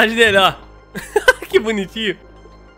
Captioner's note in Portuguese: risos